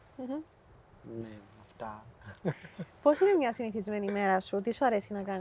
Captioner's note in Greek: γέλια